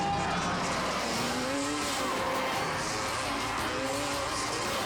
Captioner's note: engines roaring